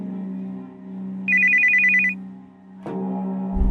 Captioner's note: phone rings; dark music